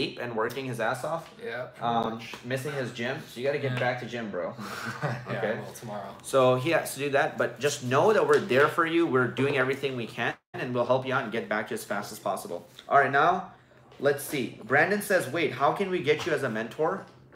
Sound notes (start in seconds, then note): 4.6 laughs